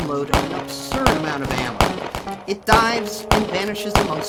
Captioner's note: guns shooting